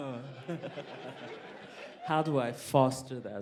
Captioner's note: laughter